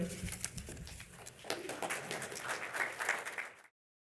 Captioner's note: applause